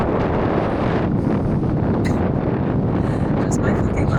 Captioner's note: wind blowing